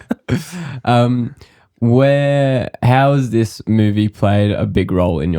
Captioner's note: laughter